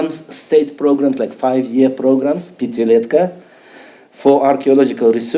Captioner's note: speaking foreign language